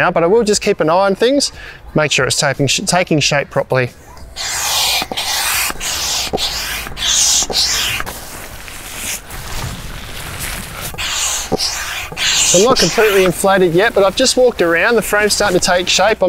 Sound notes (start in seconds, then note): 4.3 pump hissing; 8.3 fabric rustling; 10.4 pump hissing